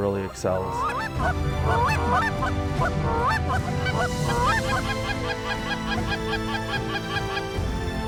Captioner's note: goose calls